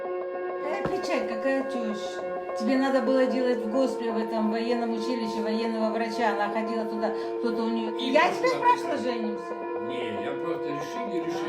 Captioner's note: light arguing